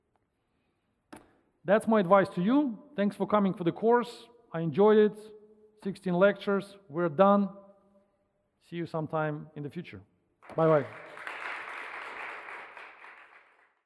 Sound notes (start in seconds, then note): 10.5 audience applauding